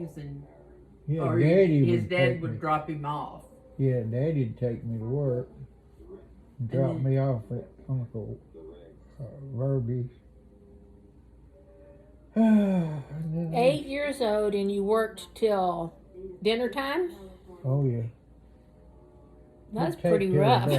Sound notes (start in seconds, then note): 12.3 sighs